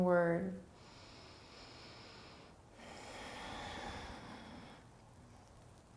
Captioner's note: inhaling and exhaling